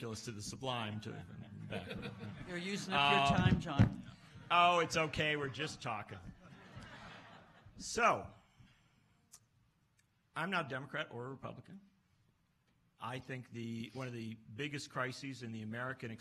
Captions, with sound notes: to the sublime and back. - You're using up your time, John. - Oh, it's okay, we're just talkin'. (laughs) So I'm not a Democrat or a Republican. I think one of the biggest crises in the